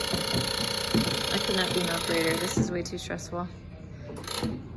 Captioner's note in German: summende und blinkende Lichter